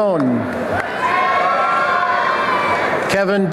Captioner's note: applause and cheering